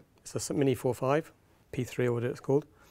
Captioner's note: none